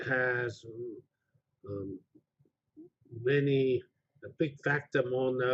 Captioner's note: pause